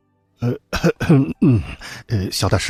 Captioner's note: coughs